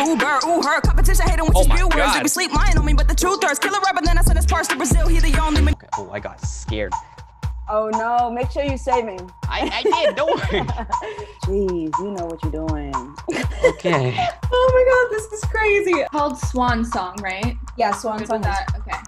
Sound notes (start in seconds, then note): 9.6 laughs